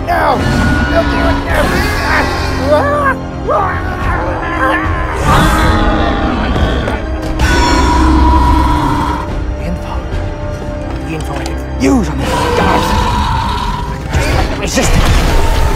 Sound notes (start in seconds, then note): 0.3 man screams; 5.1 Scorpios Rex screeching loudly